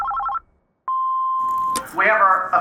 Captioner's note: phone ringing; voicemail beeping